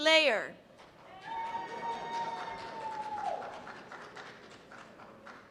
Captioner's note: cheers and applause